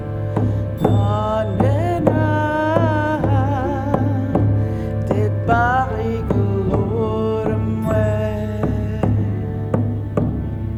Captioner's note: In Mi’kmaq